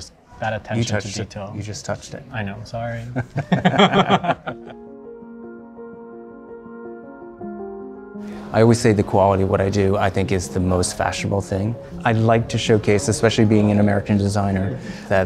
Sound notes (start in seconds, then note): 3.0 chuckling; 5.1 gentle music